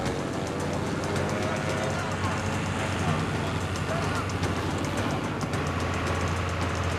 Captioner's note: men yelling in distance